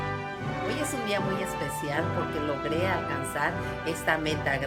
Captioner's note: band playing; foreign language